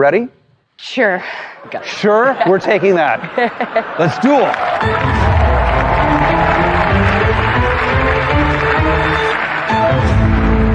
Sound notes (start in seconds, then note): 3.8 cheering and applause; 4.7 dramatic music